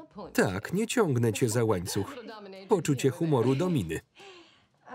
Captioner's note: laughing